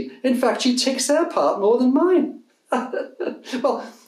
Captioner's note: laughs